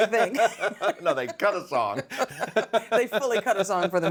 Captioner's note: both laughing